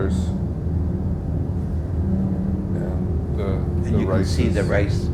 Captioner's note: vibrating mechanical sound